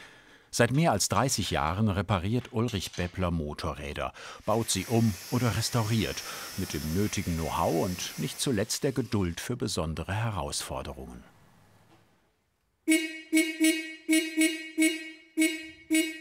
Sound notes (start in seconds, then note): 12.8 repeated short horns